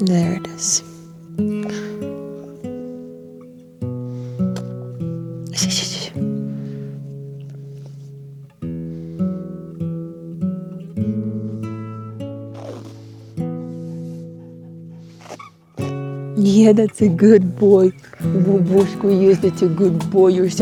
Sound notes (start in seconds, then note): 1.5 gentle music; 5.4 shushes; 12.5 tape squeaks